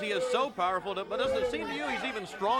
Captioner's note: crowd cheering